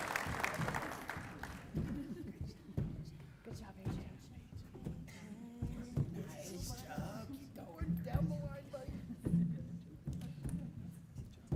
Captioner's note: applause